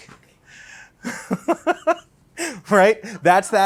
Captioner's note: laughs